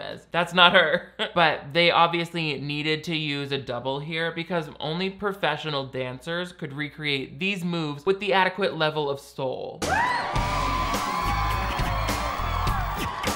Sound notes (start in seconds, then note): 1.1 chuckles; 9.8 audience cheering